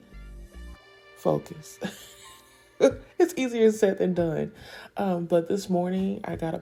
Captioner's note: laughing